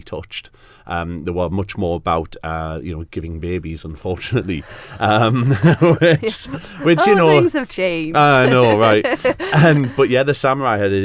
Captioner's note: laugh